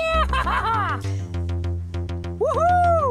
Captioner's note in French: rire